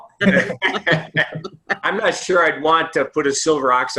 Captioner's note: laughter